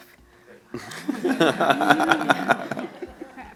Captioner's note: audience laughs